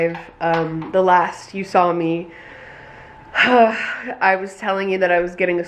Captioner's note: sighs